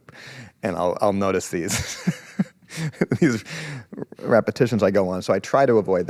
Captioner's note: laughs